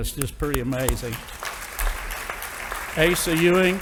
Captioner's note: audience applauding